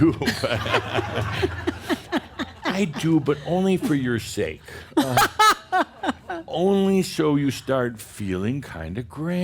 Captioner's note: laughter; laughs loudly